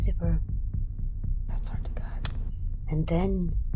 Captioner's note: whispers